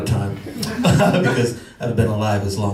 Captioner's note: laughs